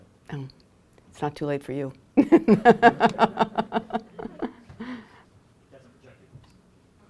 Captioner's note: laughs